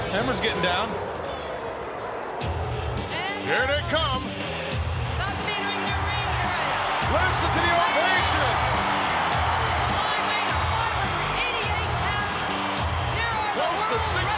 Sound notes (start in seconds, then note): 4.0 crowd roaring